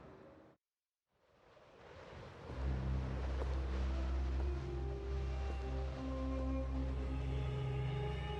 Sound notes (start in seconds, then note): 1.7 wind blowing; 2.5 brooding music